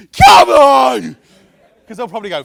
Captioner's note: yelling